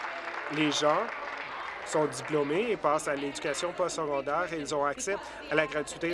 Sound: applause

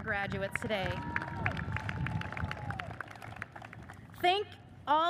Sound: audience cheers and applauds

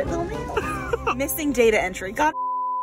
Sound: beep

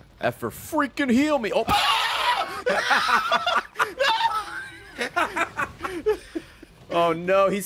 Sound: laughs

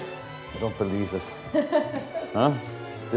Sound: laughing

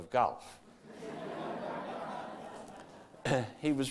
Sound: audience laughter

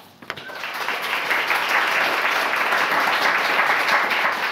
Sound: audience applauding

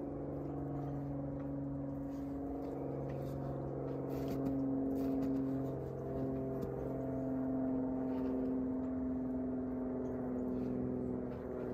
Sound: the sound of an aircraft overhead

